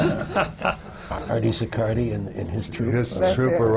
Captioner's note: laughter